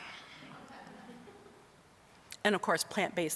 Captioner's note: audience laughing